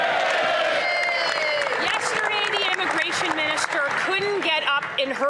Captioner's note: some Applause